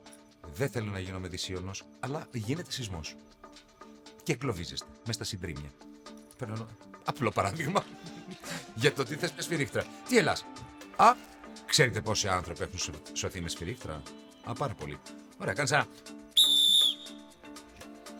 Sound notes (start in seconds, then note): 7.6 laughs; 16.3 whistles